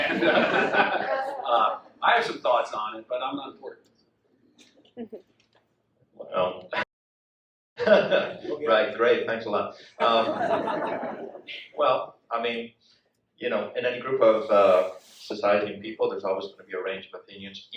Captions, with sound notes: (all laughing) I have some thoughts on it, but I'm not important. - (laughs) Right, great, thanks a lot. (audience laughs) Well, in any group of society and people, there's always gonna be a range of opinions